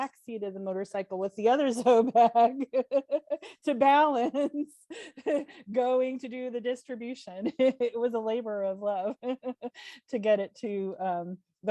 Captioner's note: laughs